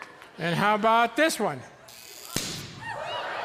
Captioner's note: electricity thrums, cork pops; audience yelps, laughs